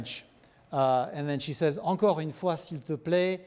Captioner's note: speaking french